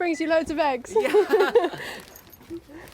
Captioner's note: laughter